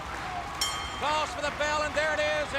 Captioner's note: bell ringing